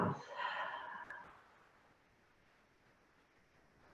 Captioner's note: deep exhale